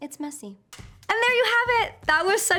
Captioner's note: clapboard snapping